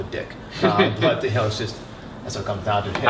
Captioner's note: laughter